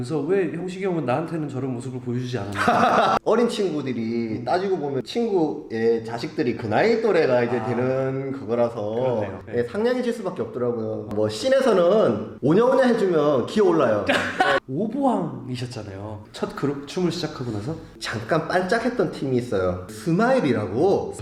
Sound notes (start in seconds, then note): 14.0 hahahaha